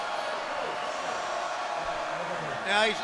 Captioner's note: crowd murmuring